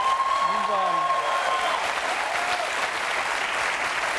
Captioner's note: applause; cheering